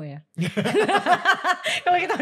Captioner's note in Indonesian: ketawa